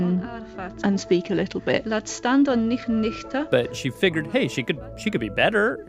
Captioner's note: speaking Old English